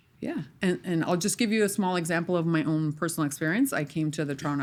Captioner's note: none